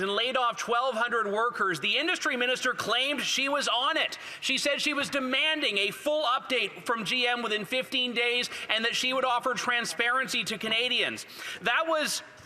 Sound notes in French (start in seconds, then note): 4.3 voix de l'interprète